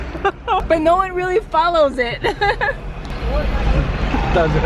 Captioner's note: laughing